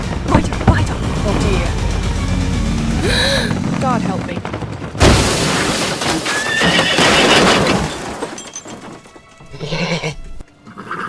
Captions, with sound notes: - Oh dear. (gasps) God, help me. (horses neigh)